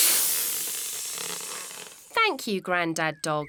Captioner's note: air hissing